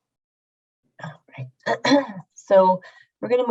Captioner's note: clears throat